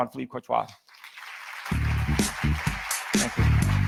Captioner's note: audience applauds; upbeat music